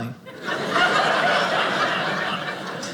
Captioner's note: audience laughing